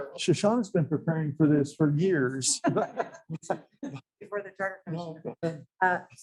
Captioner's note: laughing